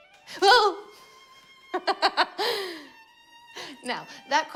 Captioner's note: laughs